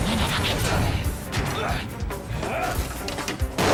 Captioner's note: grunting